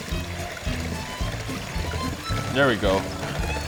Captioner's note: mixers whirring